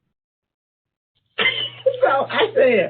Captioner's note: laughs